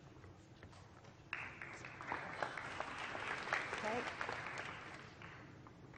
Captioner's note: applause